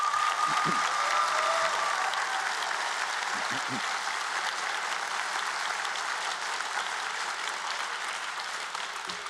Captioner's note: cheers and Applause